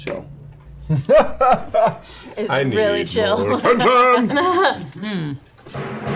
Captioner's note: laughs; music intensifies